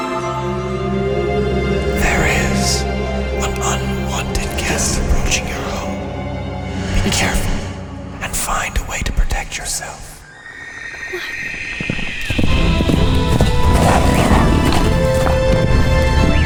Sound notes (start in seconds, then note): 0.2 eerie music; 10.6 distant horse neighs; 11.1 Mila gasps; 12.2 dramatic orchestral music